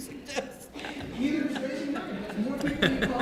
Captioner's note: laughing